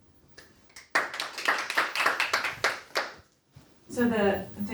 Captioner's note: audience applauding